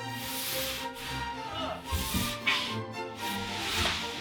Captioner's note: sounds of struggling to get up